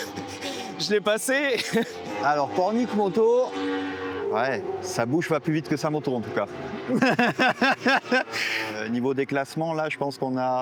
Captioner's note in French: rires